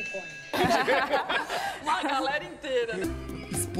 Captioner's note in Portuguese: risos